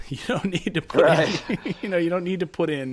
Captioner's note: chuckles; chuckling